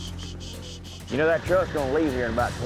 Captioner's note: makes shushing sound